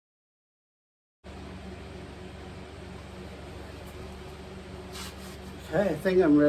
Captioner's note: fans running